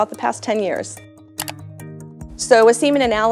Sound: slide clicks

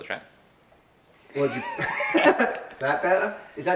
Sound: laughter

